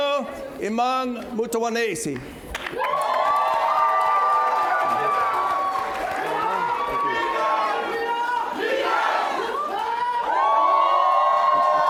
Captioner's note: cheers and Applause